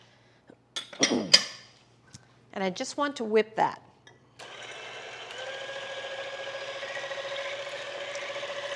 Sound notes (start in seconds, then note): 4.4 mixer whirring